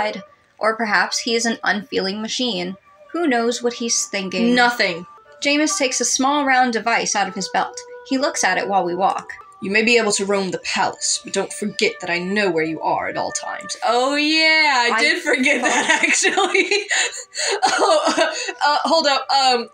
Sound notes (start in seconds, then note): 13.8 laughing; 15.2 quiet Laugh